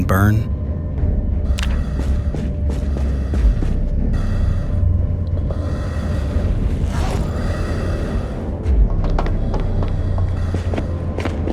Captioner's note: groaning